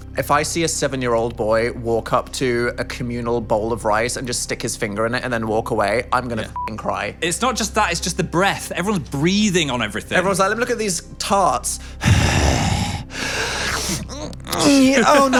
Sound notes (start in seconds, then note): 6.5 beep; 11.8 exhales; 13.5 snorts